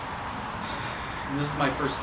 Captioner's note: sigh